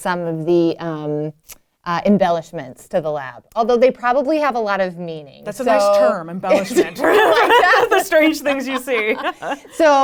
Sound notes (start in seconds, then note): 6.6 laughs; 6.8 both laughing